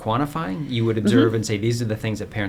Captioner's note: chuckles